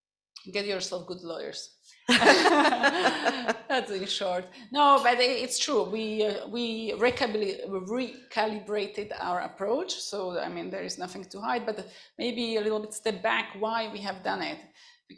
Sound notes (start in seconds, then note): 2.1 laughter